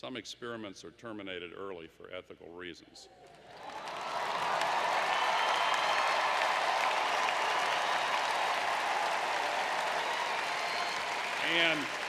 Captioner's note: applause